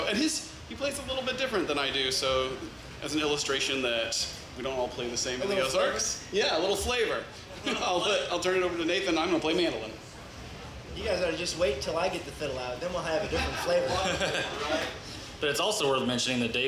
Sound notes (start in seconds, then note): 7.4 laughs; 13.3 audience laughs